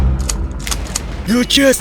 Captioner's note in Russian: звуки осечки